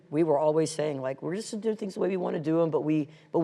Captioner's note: none